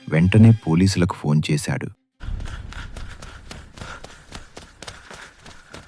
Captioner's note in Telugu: ఆయాసపడటం